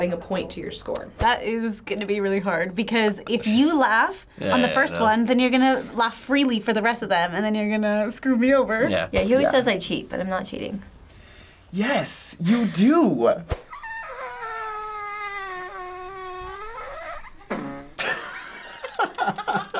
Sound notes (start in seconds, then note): 13.6 fart noises